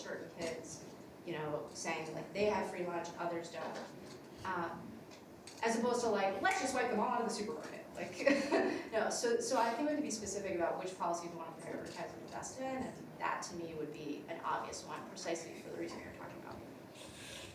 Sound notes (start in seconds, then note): 8.3 laughs